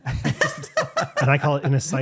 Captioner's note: laughing